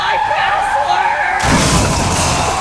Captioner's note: car tires screeching then car crashing